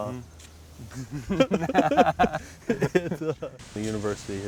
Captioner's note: laughter